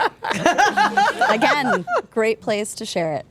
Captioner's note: group laughing